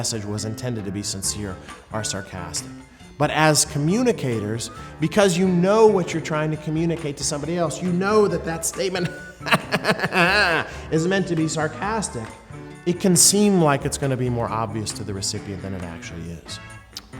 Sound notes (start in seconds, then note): 9.0 sarcastic laughing